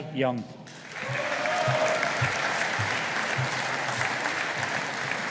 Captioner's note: audience applauding